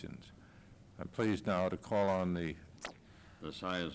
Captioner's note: camera noise